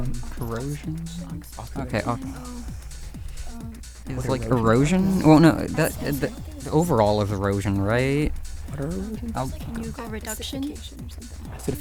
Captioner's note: whispering